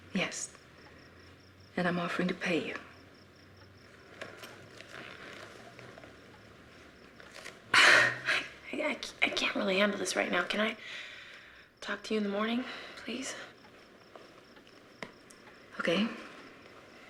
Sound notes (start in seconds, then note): none